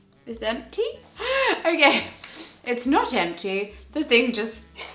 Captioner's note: chuckles